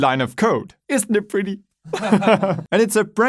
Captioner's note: laughs